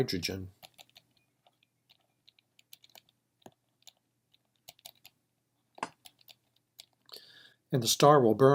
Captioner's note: typing